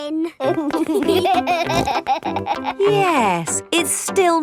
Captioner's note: laughing